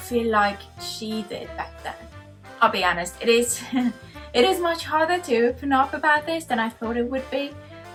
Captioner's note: nervous giggle